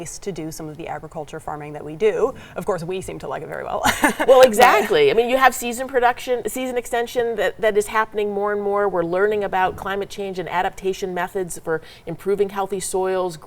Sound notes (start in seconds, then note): 3.8 laughs